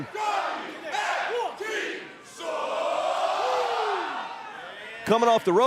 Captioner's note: fans chanting